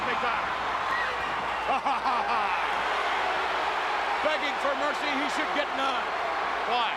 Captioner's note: laugh